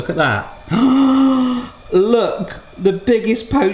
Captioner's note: gasps